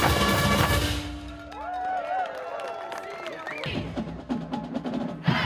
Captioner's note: cheers and applause